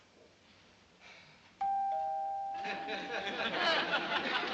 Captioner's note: doorbell dings